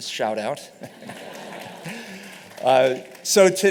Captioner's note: laughter